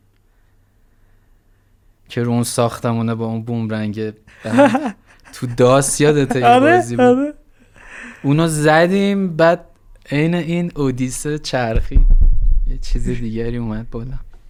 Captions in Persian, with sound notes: که رو اون ساختمونه با اون بومرنگه... تو DOS یادته یه بازی بود؟ - آره آره. (خنده) اونو زدیم بعد عین این اودیسه چرخید یه چیز دیگری اومد بالا